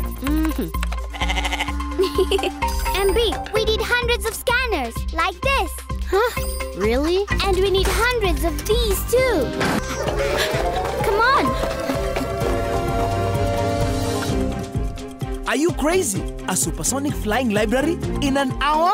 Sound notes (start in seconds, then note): 1.1 bleating; 1.9 laughing; 9.8 panting